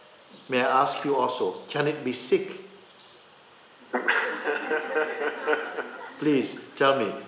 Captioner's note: laughter